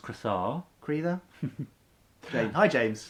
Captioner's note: laughs